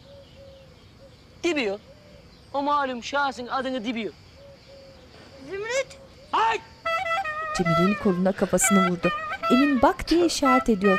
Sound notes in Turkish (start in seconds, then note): 6.3 Bağırma sesi